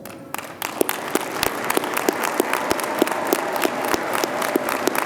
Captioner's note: audience applauding